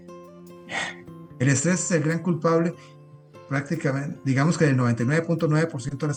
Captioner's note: snort